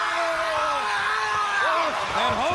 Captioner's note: Luger screams